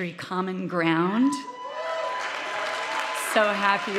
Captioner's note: audience cheering